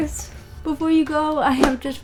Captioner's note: air whooshing